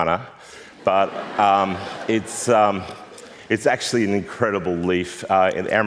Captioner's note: laughter